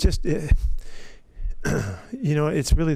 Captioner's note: Pete's throat clearing